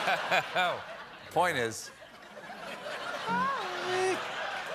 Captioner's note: laughter